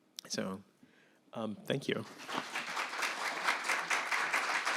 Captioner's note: audience clapping